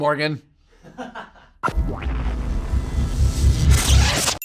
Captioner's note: laughs